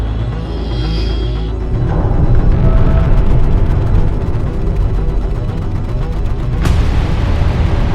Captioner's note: tense music; subs rumbling